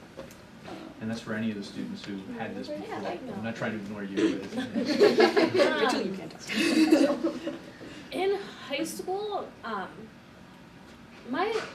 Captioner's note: all Laugh